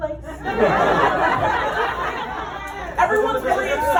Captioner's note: laughter